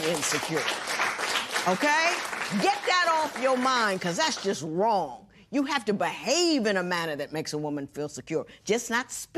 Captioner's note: applause